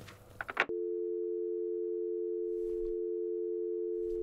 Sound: dial tone

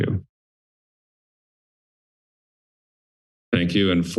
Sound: silence

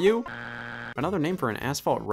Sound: buzzer beeps

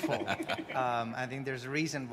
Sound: panelists chuckling

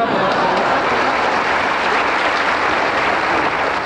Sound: crowd laughing

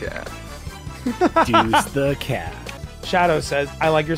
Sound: laughs

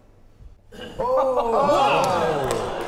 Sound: laughter

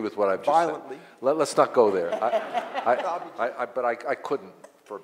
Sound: audience laughs

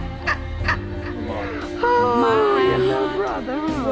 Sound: Mrs. Webb cackling

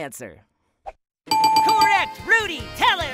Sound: bell dings

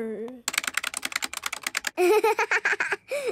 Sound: keyboard clicking

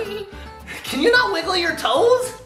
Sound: giggles

